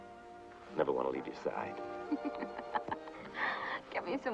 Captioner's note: laughs